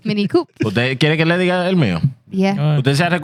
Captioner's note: speaking Spanish